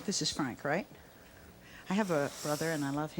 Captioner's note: none